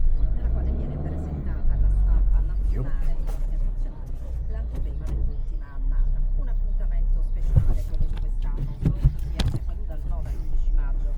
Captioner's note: speaking in foreign language